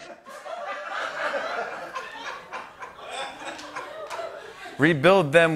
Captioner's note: laughter